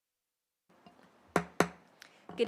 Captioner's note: gavel hitting dais